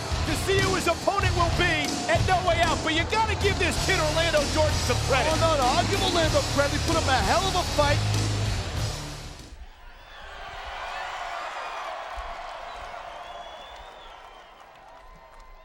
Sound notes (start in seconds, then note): 9.8 audience cheering